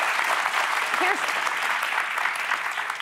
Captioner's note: applause